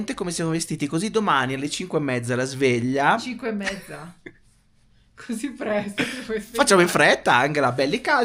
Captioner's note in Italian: risate